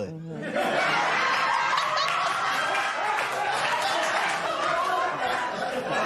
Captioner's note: laughter